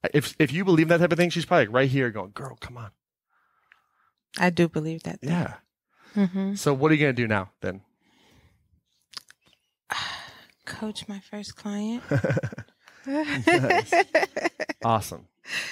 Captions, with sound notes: If you believe in that type of thing, she's probably right here going, girl, come on. - I do believe that. - Yeah. So what are you gonna do now, then? - Coach my first client. (laughing) - Awesome.